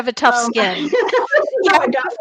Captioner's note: laughs